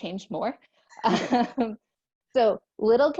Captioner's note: laughter